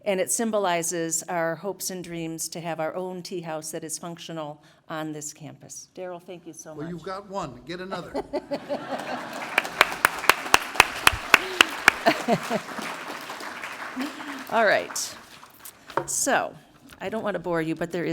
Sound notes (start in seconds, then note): 8.6 laugh; 8.8 applause